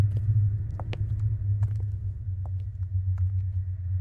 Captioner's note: footsteps